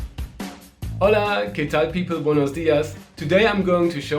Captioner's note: speaking in foreign language